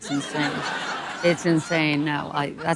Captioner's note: audience laughing